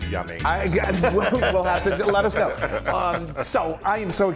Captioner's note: laugh